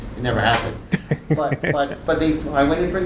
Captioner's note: laughing